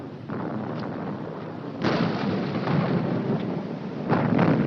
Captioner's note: artillery exploding in distance